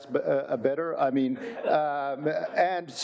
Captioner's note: audience chuckling